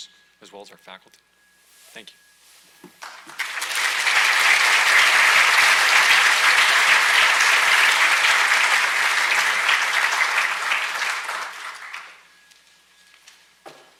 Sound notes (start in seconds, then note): 3.3 audience applauds